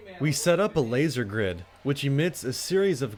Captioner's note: voiceover